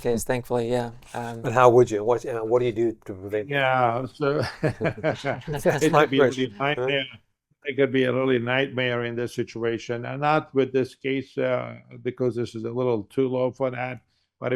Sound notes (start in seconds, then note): 4.3 laughing